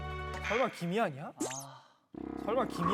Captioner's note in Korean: 꺄르르